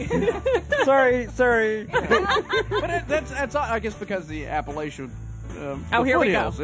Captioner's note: laughter